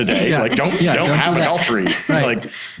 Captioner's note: laughing